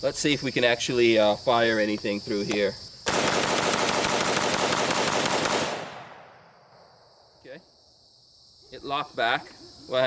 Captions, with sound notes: Let's see if we can actually fire anything through here. (rapid firing) OK. It locked back.